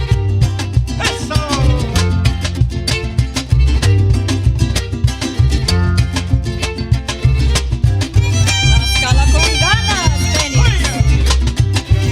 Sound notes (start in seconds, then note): 1.3 speaks in Spanish; 2.2 mariachi music; 8.8 band speaking in Spanish